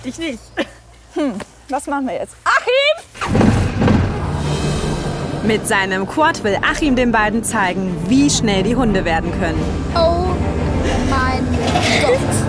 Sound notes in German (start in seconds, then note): 3.6 Knattern